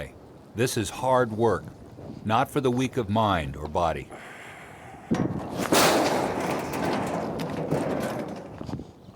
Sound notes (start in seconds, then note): 5.6 door bangs as it's kicked in